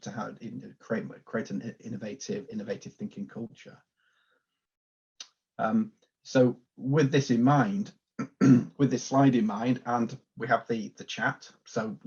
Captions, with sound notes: in order to create an innovative thinking culture. So with this in mind. (clears throat) With this slide in mind and we have the, the chat,